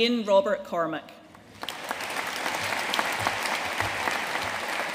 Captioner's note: audience applauding